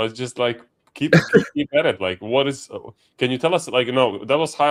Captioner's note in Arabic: ضحك